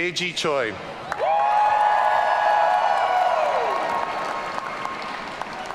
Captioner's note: audience cheering